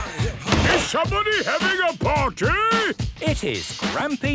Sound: shouts

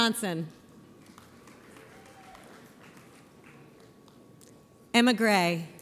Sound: audience applauds

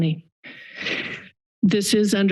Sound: breathing sound

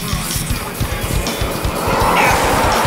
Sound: car engine whirs; chicken clucking

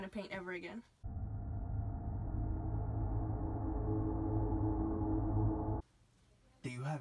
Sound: drone sound

